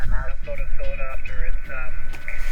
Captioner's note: radio chatter